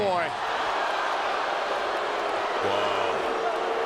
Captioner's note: crowd boos